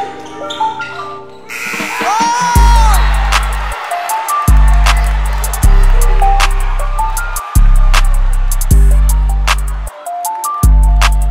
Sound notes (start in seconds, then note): 1.1 buzzer sounding; 1.9 cheering; 4.2 trap music